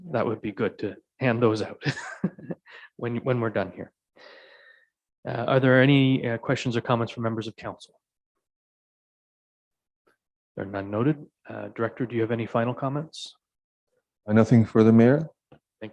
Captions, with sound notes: That would be good to hand those out (Mayor laughing) when we're done here. Are there any questions or comments from members of council? There none noted, director, do you have any final comments? - Nothing further, Mayor.